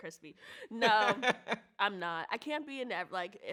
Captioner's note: laughs